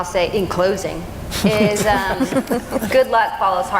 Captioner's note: giggling